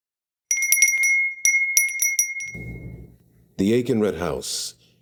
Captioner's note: bell ringing